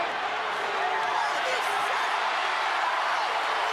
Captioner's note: crowd yelling